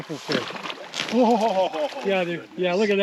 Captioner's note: fish splashing